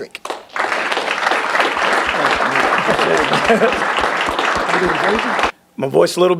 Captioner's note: applause